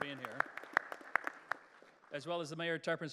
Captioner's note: applause